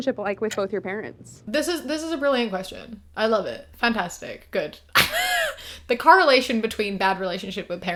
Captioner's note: laughs